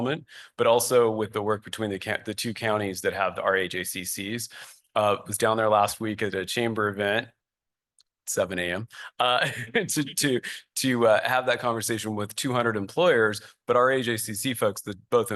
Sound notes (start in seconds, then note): 9.3 laughter